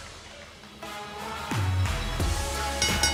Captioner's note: bell ringing